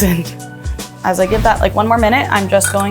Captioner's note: instructions whooshing